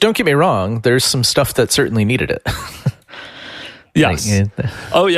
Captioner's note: laughs